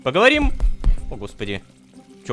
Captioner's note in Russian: Несколько глухих ударов